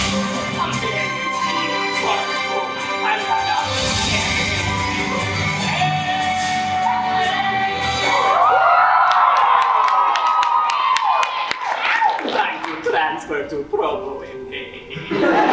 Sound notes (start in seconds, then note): 8.0 audience cheers